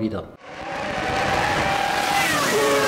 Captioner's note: engine sound